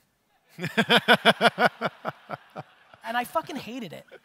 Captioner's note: audience laughter